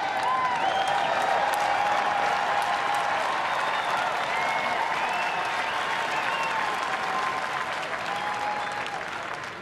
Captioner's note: applause, cheers